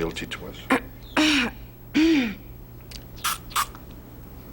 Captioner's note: clearing throat; spraying